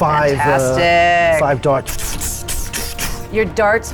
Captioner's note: puffing